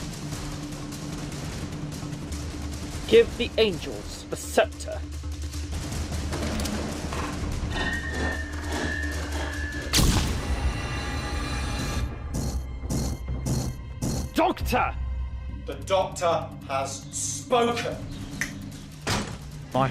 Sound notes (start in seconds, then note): 9.9 flashbang explodes; 12.4 sound of angels moving; 18.3 snaps finger; 19.0 doors closing